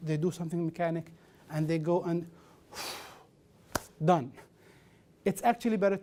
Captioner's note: phew